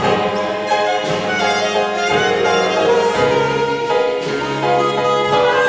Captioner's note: applause